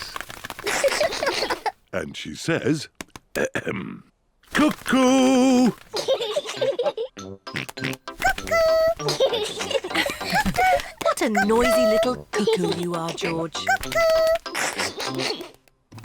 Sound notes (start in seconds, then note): 0.7 both laugh; 5.9 both laugh; 7.7 oinks; 8.6 both laugh; 14.9 laughs